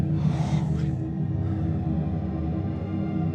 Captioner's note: heaves; suspenseful music